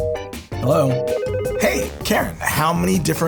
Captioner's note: phone rings; busy signal